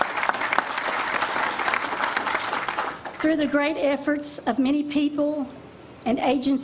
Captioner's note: applause